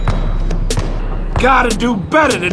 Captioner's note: ball bouncing